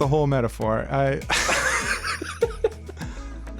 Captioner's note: both laugh again